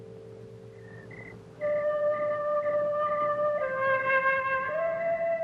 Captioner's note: crickets chirping